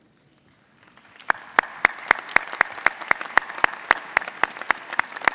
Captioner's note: audience applauding